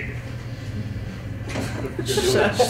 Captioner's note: chuckles